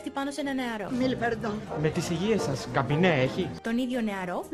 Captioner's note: french